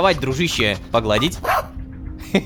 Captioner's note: robodog barking